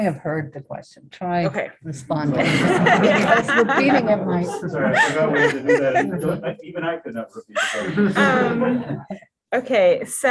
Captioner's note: laughter